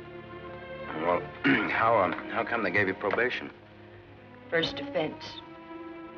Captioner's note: coughs